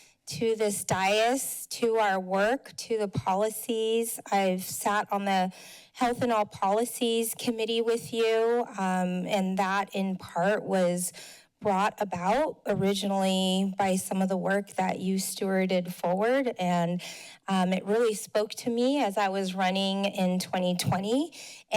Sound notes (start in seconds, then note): none